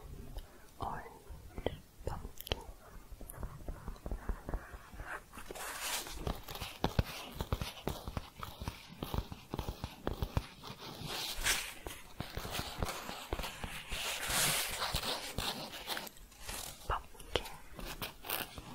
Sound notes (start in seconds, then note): 0.0 shuffling; 3.2 shuffling, then tapping, then scratching; 18.5 scratching